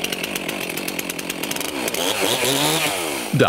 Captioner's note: engine revs